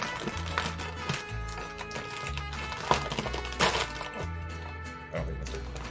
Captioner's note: ripping